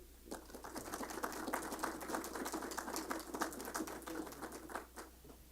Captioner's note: audience applauds